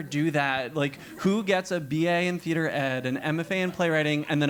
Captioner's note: laugh